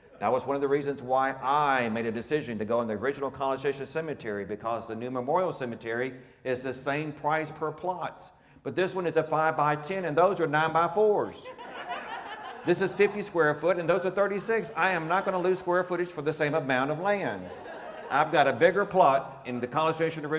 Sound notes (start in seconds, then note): 11.7 audience laughing; 17.8 audience laughing